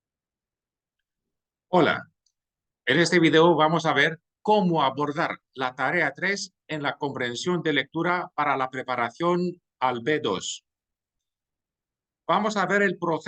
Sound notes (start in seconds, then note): 6.8 in Spanish